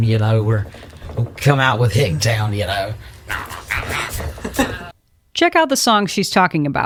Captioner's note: mimics the sound of a guitar